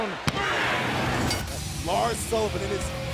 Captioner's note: crowd cheering